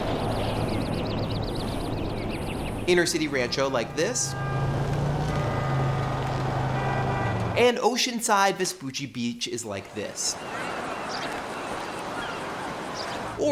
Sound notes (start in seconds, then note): 0.0 birds and nature sounds; 4.4 horns, jackhammers, and city sounds; 9.7 seagulls and waves